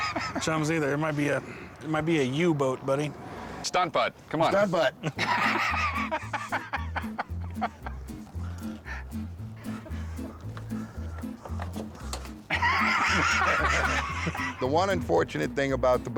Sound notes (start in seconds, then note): 5.0 laughter